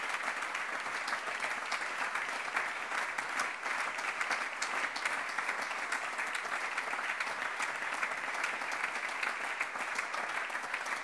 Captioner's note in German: Anhaltender Beifall